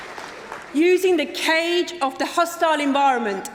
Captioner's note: applause